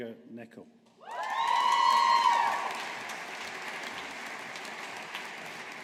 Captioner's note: audience applauding